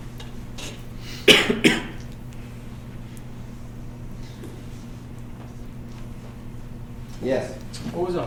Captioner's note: coughing